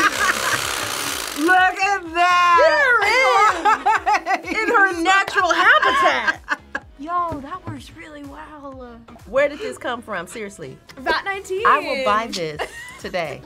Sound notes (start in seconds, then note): 0.0 laughs; 3.0 laughs